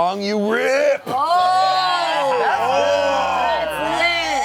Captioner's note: cast exclaims